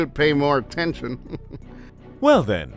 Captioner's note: chuckle